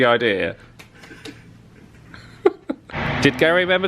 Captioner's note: pair chuckling